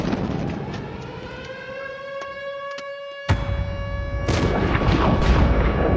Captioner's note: intense music playing; sirens blaring